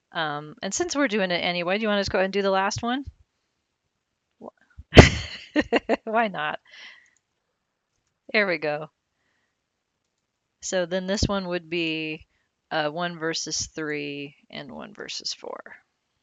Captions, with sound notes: And since we're doing it anyway, do you want us to go and do the last one? (laughs lightly) Why not? There we go. So then this one would be one versus three and one versus four.